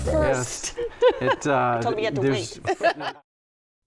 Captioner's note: laughs